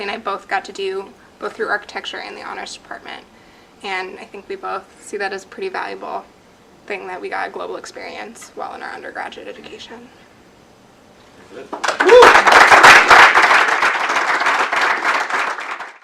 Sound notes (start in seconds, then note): 11.7 audience clapping